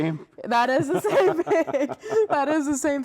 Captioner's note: both chuckling